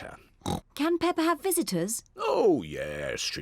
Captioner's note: oinks